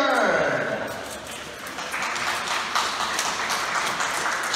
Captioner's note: applause